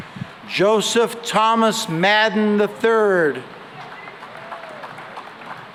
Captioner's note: applause